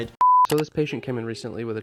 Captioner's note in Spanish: clic